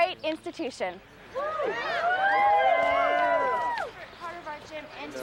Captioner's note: crowd cheers